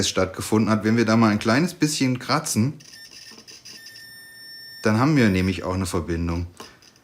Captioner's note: beeps